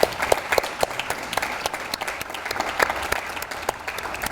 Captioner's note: audience applauds